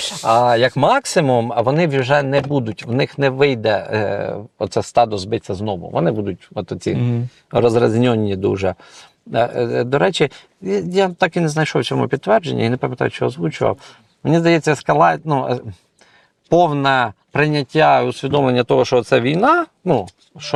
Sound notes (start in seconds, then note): none